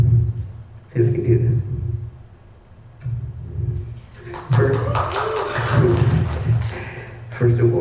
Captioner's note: applause